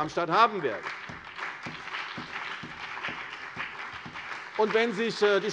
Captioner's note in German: Beifall CDU und BÜNDNIS 90/DIE GRÜNEN